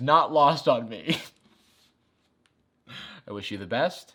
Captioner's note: chuckles